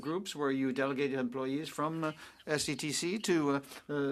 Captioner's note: speaking French